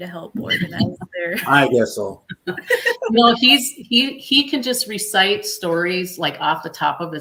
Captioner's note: laughter